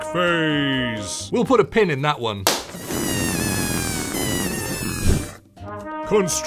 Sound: pop. Deflating sounds

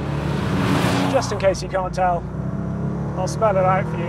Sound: engine roars

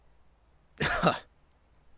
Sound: scoffs

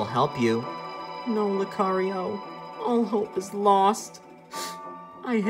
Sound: sniffles

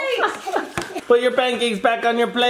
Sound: laughs

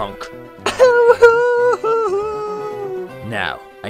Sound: cries

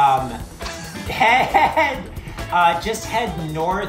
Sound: both laughing

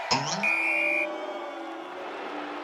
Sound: whistle; booing

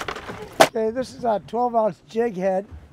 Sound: fish thrashing

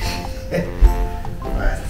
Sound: laughs

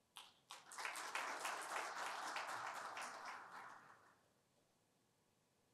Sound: applause

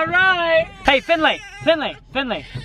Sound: child crying

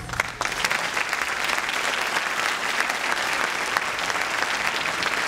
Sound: audience clapping

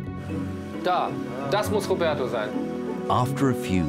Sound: speaks German

